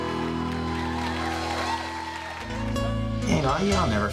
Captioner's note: crowd cheers; gentle music